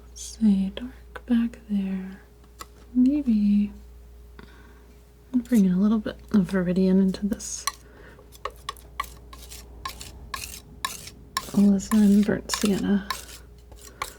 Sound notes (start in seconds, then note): 8.2 scratching